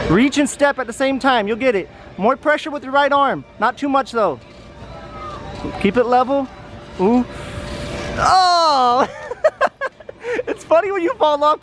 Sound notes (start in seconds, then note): 7.4 gasp; 8.9 laughing